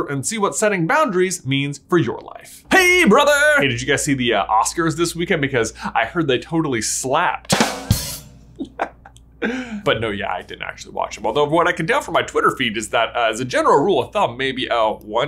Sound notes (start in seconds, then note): 7.4 drum roll; 8.5 chuckles